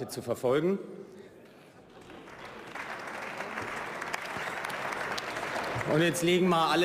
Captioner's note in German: Beifall